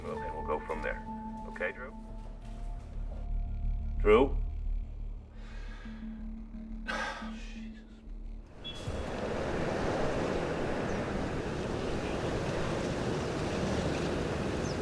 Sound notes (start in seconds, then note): 6.8 sighs; 8.4 traffic humming